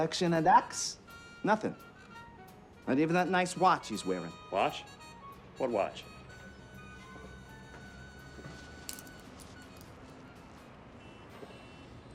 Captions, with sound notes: o' ducks. Nothin'. Not even that nice watch he's wearin'. Watch? What watch? (METAL CLICKING)